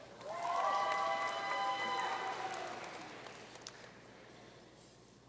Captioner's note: audience cheering and applauding